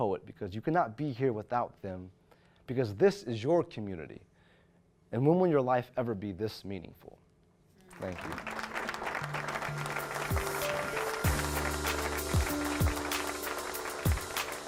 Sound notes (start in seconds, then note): 7.8 audience applauds; 10.3 upbeat music